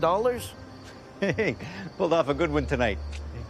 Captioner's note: laughs